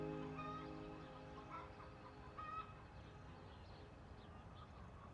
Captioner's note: chickens squawking